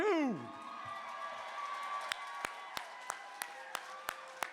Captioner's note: applause